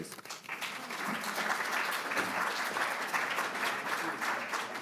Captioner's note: audience applauds